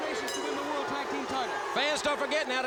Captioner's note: bell ringing